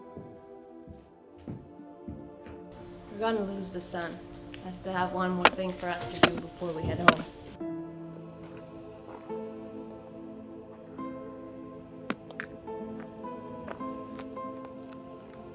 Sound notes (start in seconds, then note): 3.9 rock pounding as hammer